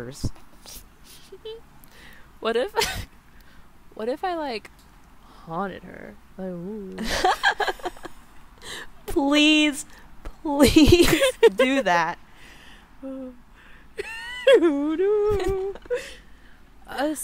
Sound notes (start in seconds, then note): 0.8 laughs; 14.0 NIKKI laughs; 14.0 laughs